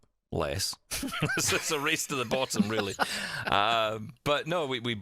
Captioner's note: laughs